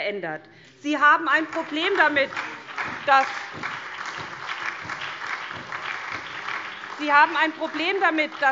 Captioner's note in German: Beifall SPD, BÜNDNIS 90/DIE GRÜNEN und DIE LINKE